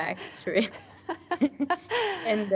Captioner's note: laughs